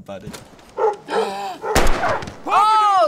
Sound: gasps; gun fires

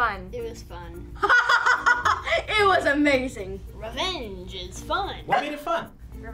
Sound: laughs

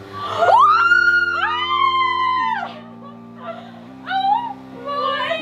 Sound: girls screaming

